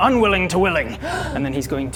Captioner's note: gasp!